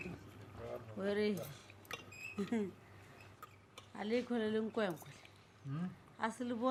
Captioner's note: people chattering; people chattering in foreign language